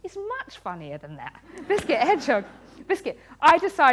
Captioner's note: laughter